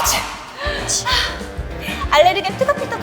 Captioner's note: sniffle